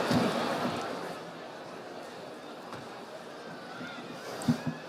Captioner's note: audience chattering